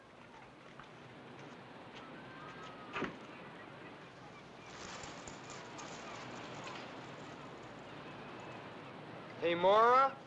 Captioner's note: sound of ocean and seagulls